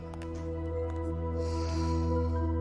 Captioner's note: sighs